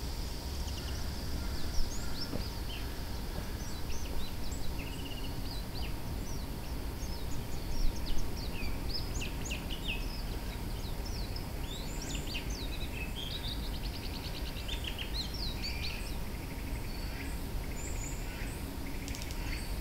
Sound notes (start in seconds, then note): 1.2 there's beautiful bird chirps; 5.1 and the calls of cicadas, a signature of summer